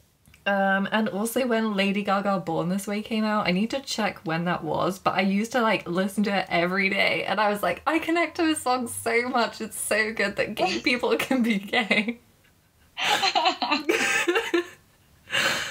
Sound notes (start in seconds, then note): 13.0 laughing